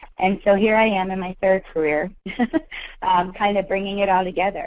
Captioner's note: giggles